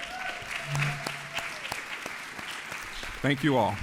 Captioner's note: audience applauds